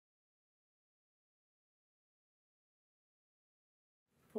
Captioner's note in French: silence